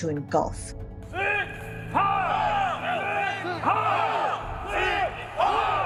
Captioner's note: crowd chanting in German